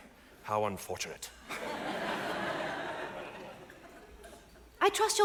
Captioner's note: audience laughs